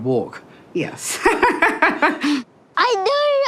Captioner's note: laughing